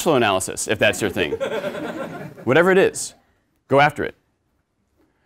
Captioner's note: laugh